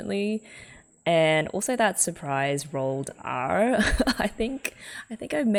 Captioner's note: laughs